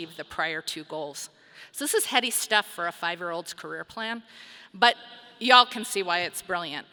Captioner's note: none